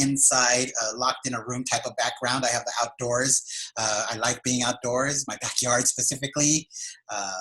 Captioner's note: laughs